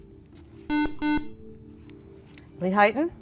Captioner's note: buzzer